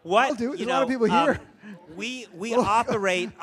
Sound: laughs

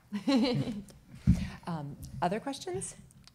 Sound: laughing

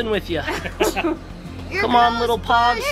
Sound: laughter

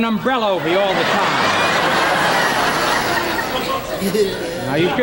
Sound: audience laughing

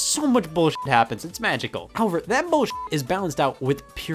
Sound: beep; beep

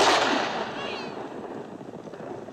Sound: baby cries

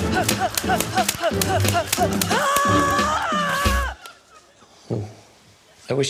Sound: grunts, yells

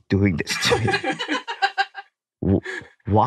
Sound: laughs

